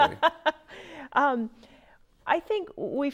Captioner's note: laughing